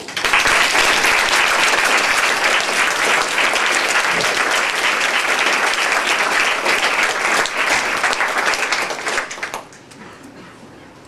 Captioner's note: applause